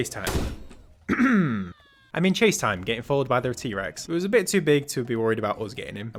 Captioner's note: clears throat